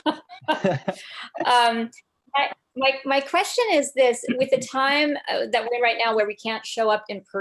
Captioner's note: laughs